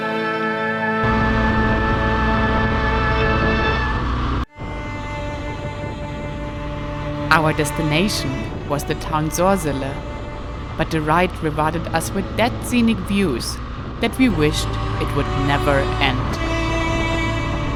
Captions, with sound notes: (engine rumbling) (gentle orchestral music) Our destination was the town Sorsele, but the ride provided us with that scenic views, that we wished it would never end.